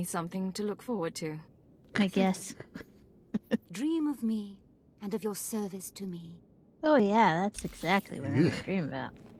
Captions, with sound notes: something to look forward to. I guess. [laughs] Oh, yeah. That's exactly what I dreamed about.